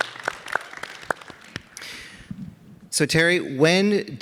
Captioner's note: audience applauding